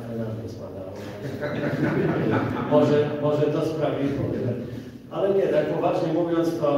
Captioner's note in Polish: Śmiech z sali